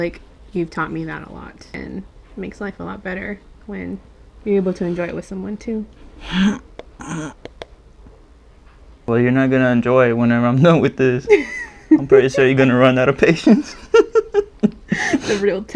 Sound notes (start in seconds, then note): 6.0 hmmph; 11.2 laughs; 13.9 laugh